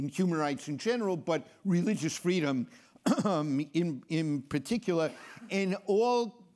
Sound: clears throat

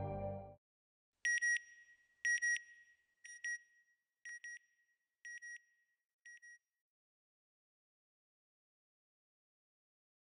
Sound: sound FX

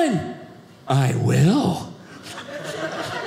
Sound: audience laughing

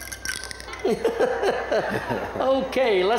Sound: laughter

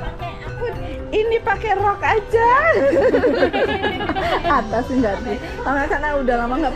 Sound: laugh

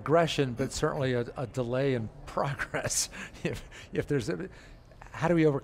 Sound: chuckles

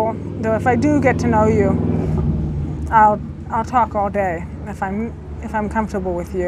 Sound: car rumbling past

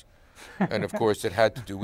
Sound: laughs

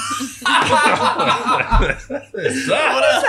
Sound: laughing

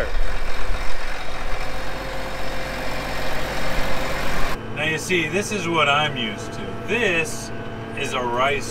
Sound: tractor sound

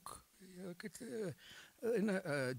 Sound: old man babbling

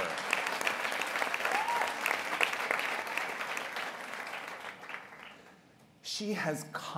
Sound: applause

